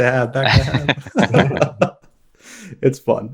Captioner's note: all laughing